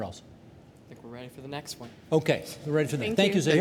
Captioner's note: none